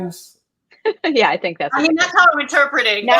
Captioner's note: laughs